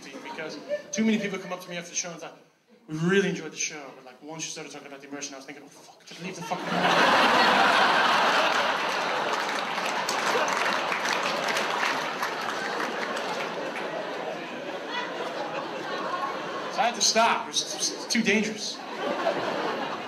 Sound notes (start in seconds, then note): 7.2 audience laughs; 10.7 audience applauds; 19.1 audience laughs